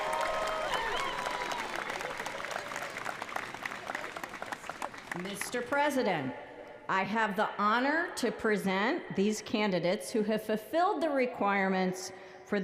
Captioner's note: applause